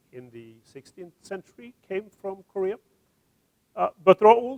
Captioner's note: none